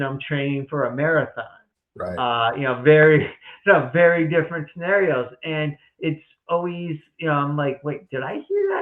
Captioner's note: chuckles